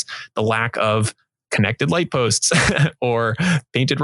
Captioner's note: laughing